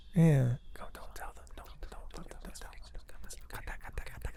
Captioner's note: all whisper